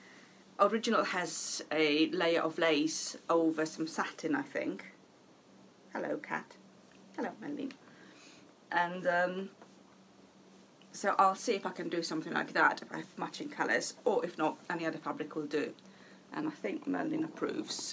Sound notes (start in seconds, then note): none